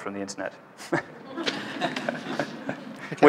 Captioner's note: laughter